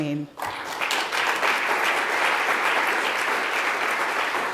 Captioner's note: audience clapping